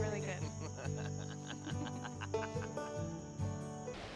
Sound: laughter

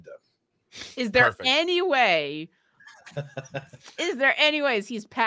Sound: laughing

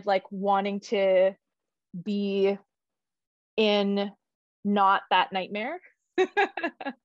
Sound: laughs

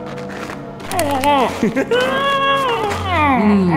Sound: nose crunches; prof. lake cries in pain

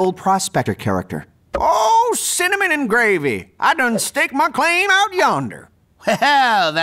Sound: frail voice

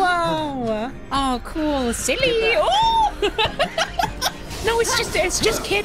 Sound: laughter

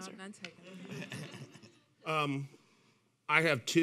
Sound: laughing

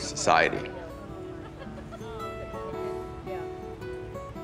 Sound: laughter

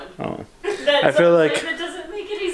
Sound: laughing

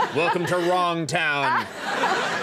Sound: audience laughing; Meg laughing

